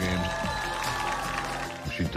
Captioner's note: cheers and applause